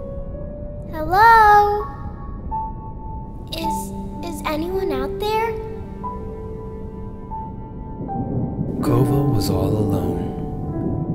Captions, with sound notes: Hello??? Is...is anyone out there? [Sad piano music] [Thunder rumbling above the surface] Kova was all alone.